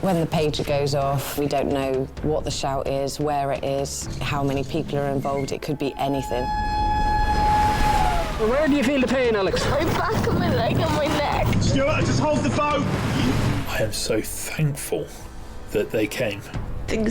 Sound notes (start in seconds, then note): 5.9 alarm blaring